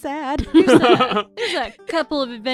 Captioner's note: laughter